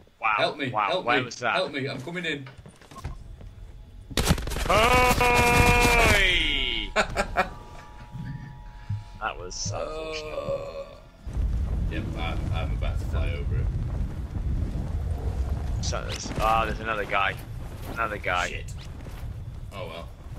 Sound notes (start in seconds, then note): 7.7 sniggers